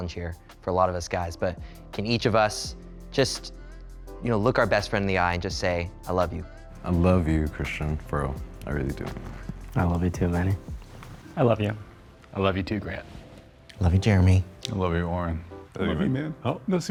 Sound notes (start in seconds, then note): none